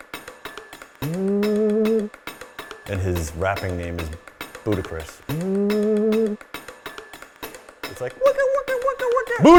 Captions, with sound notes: (tube vibrating) and his rapping name is Buddhacris. (metal clanging) (tube vibrating) It's like...